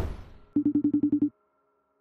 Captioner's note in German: Anrufton